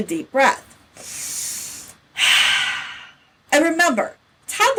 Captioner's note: breathes deeply